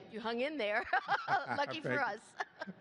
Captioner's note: laughs